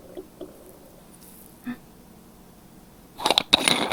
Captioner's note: silence